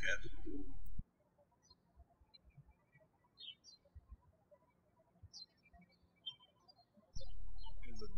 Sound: birds chirping

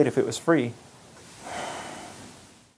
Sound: sigh

